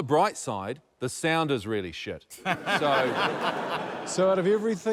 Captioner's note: laughter